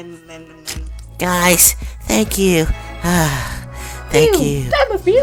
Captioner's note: sigh